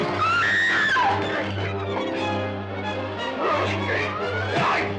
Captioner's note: Sheila screaming